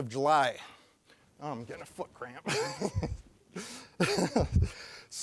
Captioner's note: laughing